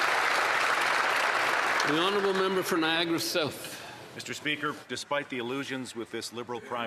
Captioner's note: applause